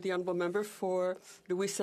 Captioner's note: speaking French